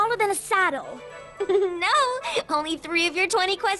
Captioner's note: chuckles